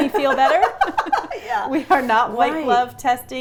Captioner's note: laughs